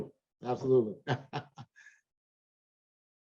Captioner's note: laughs